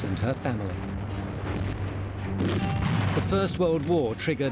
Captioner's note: dramatic music; gunfire blasting